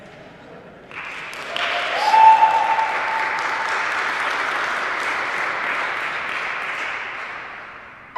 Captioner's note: applause